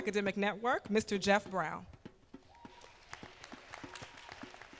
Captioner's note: applause